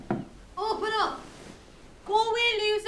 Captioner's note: knock on door